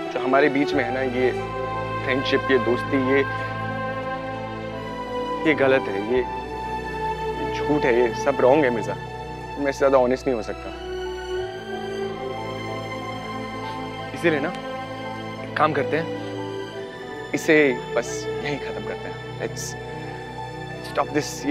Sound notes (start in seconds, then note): 13.3 Sniffs